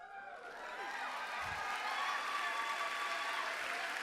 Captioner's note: applause